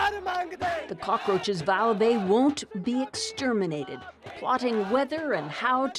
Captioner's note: crowd noise